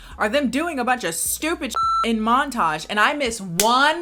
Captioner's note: beep